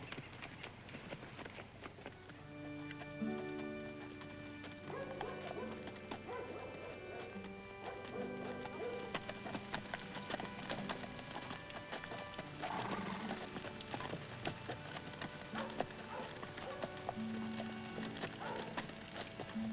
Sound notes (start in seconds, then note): 2.4 somber music; 4.4 dog barking